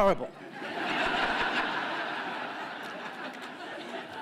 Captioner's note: laughter